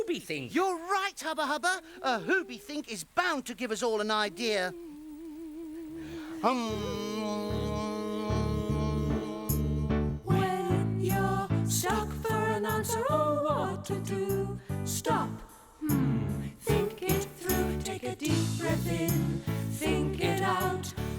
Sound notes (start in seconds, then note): 4.6 all humming